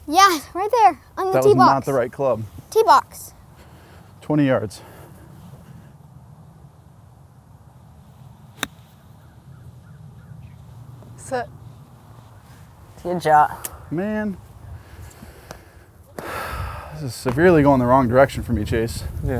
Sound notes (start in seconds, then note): 16.2 sighs